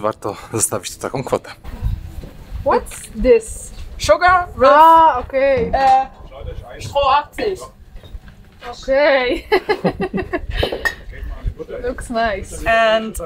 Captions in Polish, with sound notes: zamczyk What this Sugar [śmiech]